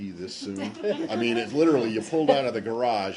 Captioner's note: laughter